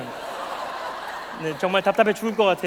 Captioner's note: laugh